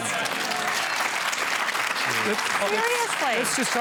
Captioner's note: cheering and applause